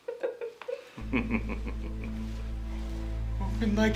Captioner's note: Clifford chuckling